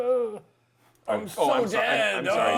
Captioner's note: groaning, dying sounds; laughter